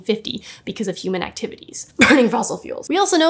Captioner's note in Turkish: öhü öhü